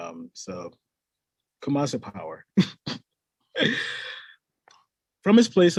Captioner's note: laughs